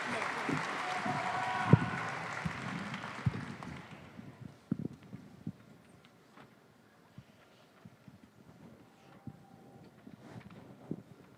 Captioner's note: applause